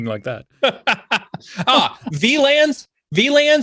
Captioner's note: laughs